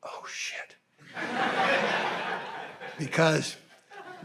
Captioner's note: audience laughing